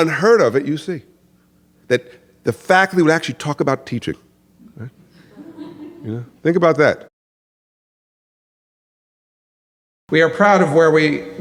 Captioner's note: laughter